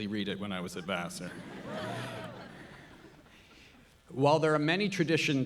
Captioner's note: audience laughing